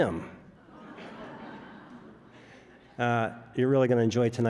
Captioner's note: audience laughs